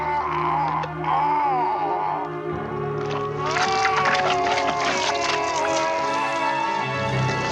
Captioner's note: screaming